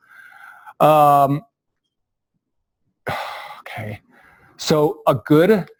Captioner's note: pause